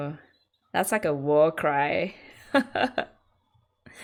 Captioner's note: laughs